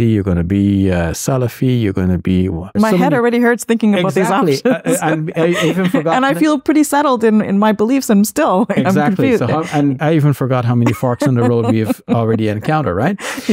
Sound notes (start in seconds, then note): 4.0 laughing; 10.8 laughing